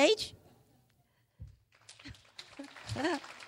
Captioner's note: clapping